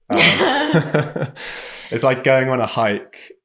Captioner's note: both chuckle